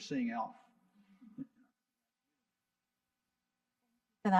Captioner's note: faintly speaking